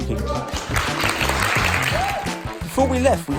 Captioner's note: audience clapping